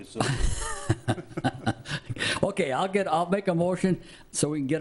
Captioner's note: laughs